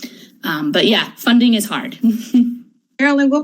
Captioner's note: laughs